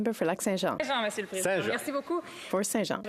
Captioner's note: speaking French